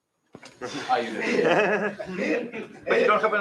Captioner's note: laughter